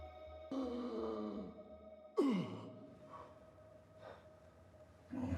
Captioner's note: Van Helsing gasping for air